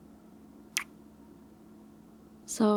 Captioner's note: kiss